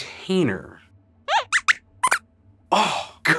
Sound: squeaks squeaks

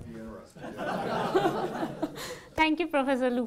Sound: audience laughing

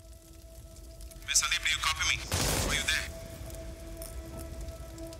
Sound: on Radio

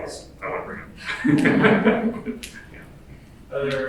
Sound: laughs

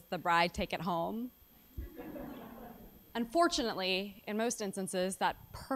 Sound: laugh

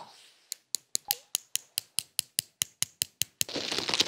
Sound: sound of tweezers

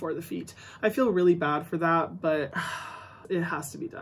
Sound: sighs

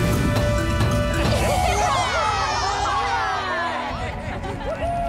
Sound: cheering

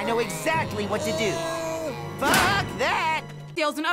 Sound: slamming cellar door shut

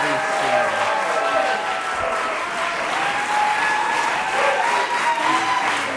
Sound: audience applauding; audience cheering

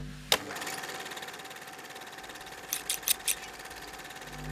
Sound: machine stitching

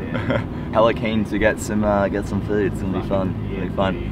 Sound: laughs

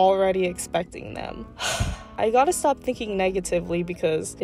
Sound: sigh

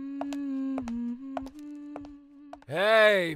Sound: humming

